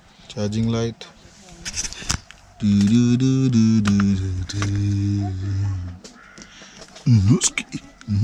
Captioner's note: humming